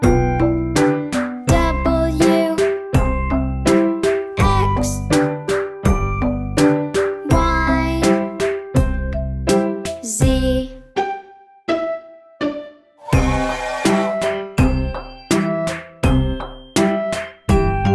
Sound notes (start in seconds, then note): 13.0 whistle tooting